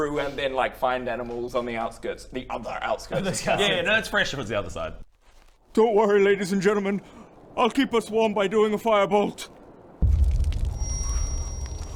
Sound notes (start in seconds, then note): 5.7 shivering; 10.0 sizzling fire